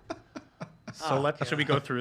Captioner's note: laughs